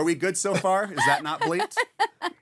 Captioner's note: laughing